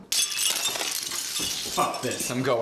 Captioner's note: jingling beads